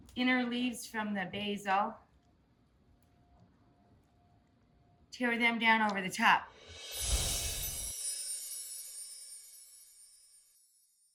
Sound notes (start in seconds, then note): 6.7 magical tinkling